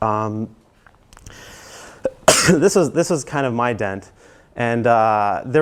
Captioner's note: cough